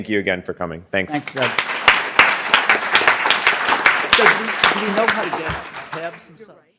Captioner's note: applause